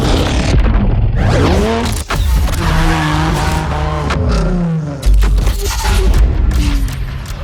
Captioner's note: engine roaring; gears shifting; clock ticking; intense music